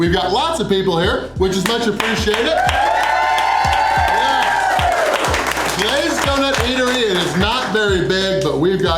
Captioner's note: crowd cheering